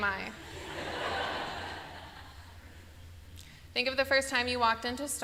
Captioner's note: laughter